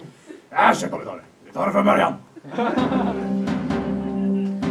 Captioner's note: audience laughs